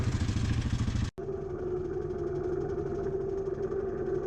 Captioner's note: winch is whining